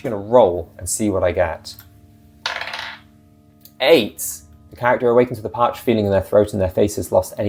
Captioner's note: die roll